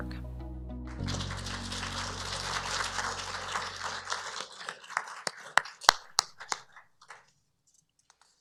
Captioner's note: applause